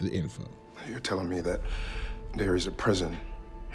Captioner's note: inhales